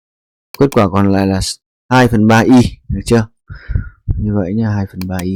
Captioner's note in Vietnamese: khịt mũi